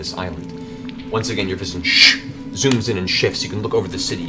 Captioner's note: shhh